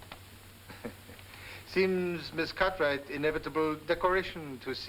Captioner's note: chuckles